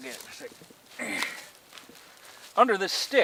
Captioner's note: grunting